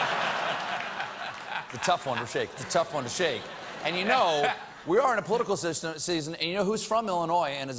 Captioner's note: laughter